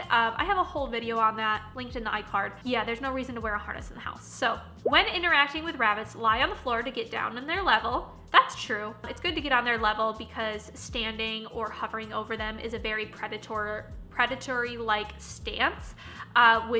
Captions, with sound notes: I have a whole video on that linked in the i-card. Yeah, there's no reason to wear a harness in the house. So, (popping) "When interacting with rabbits, "lie on the floor to get down on their level," that's true. It's good to get on their level because standing or hovering over them is a very predatory-like stance